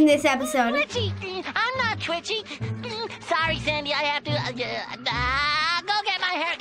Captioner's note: stutters